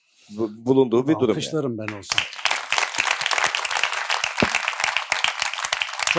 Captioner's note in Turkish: alkış